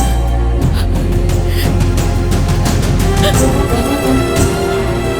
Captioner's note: crying